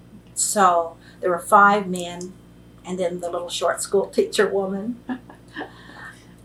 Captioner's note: laughs